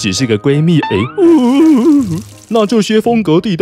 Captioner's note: cry cry